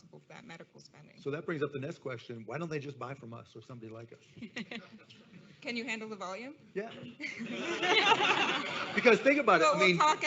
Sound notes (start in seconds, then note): 7.2 all laughing